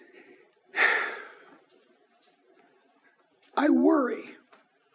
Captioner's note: deep sigh